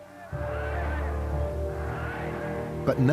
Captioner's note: chanting "Heil"